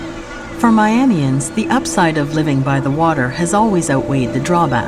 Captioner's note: thunder rumbles